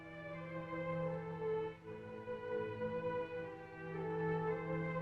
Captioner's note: none